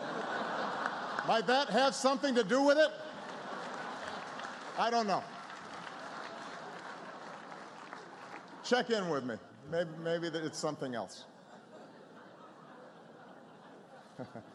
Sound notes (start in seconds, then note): 0.0 laughter; 3.1 applause; 11.3 laughter